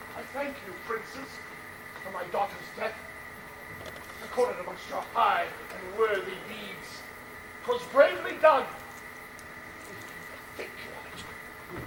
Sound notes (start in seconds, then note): none